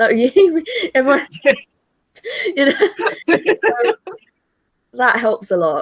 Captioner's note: laughing